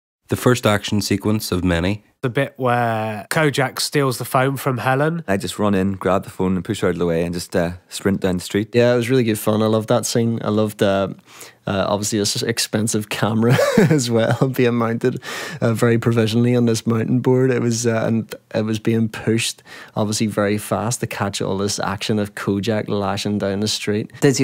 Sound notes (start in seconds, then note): 13.4 laughs